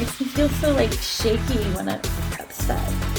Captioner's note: none